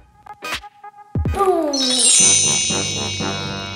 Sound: slow hip hop music; wand chimes; comical music

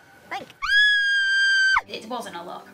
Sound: scream

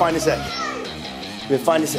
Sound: kid yelling

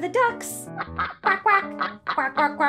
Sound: ducks quacking

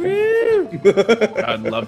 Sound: laugh

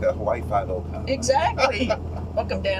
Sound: laughter

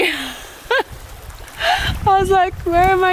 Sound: laughing

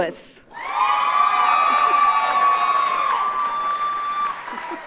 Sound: audience cheers and applauds

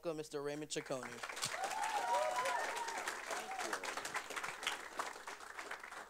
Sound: applause

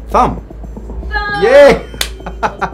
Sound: high pitched bell dings; laughs

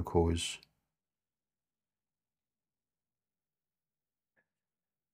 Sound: silence

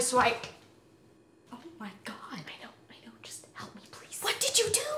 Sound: whispered

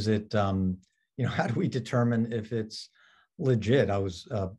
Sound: chuckles

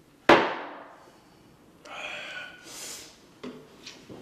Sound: glass thuds

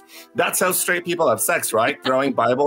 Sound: continues to laugh

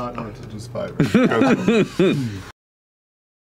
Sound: laughter

